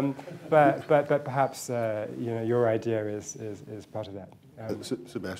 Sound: laughter

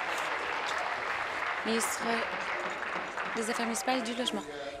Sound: applause

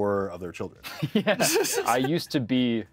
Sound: chuckles

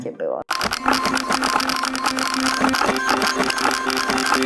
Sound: typing and beeping

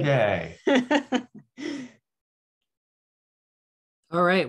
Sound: laughs

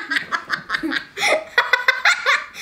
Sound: laughter

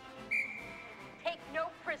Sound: whistle blsow

